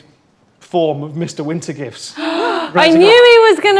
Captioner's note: group gasps